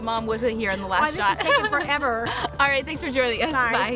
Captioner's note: laughs